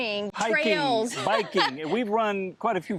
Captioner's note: laughing